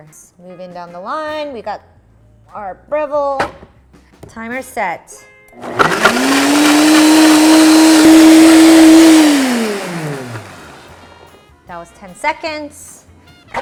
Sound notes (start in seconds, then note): 5.6 Breville whirs loudly